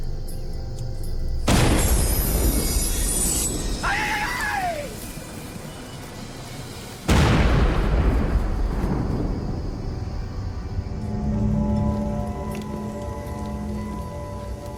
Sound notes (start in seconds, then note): 1.4 explosion; 7.0 explosion